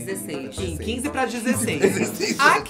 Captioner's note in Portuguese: risos